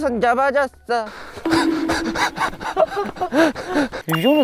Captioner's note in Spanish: Riendo de verdad